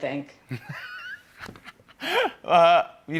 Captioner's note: laughs